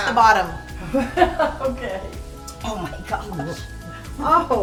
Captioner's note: laughing